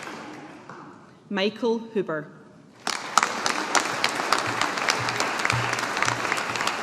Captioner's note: audience applauding